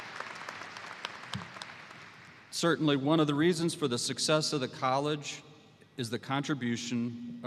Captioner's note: applause